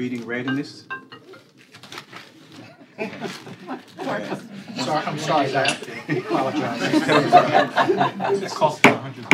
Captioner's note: cell phone ringing